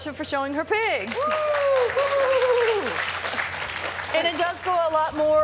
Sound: applause

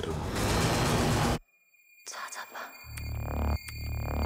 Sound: high-pitched ringing

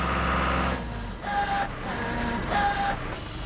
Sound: engine Running

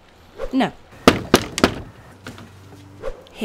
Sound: door knock

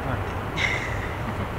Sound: laugh

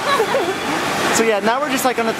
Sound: laughter

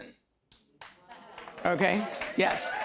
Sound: audience applause

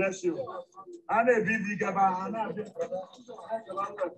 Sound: non-english speech

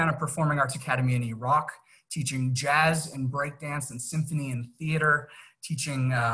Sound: arabic

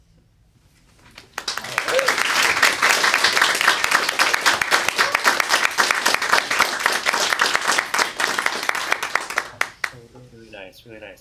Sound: applause

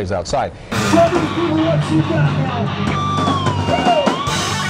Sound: muffled shouting; electric guitar solo

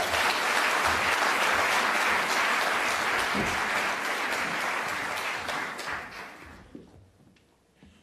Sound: applause

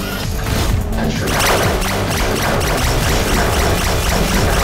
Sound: dramatic synth music; pod whirs and clangs; lasers zapping

